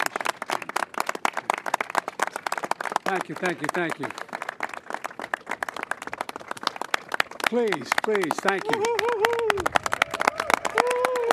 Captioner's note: applause